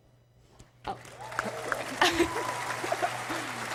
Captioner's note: applause